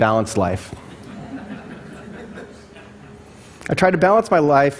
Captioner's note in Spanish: Risas